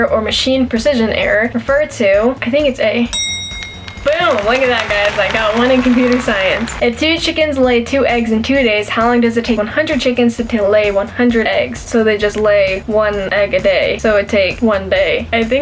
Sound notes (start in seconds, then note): 3.1 bell ring